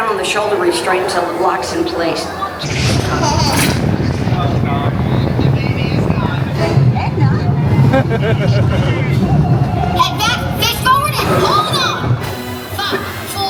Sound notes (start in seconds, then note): 4.3 ride rumbling; 7.8 laughing